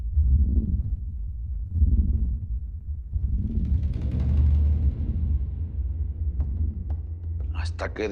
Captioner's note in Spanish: Respiración lenta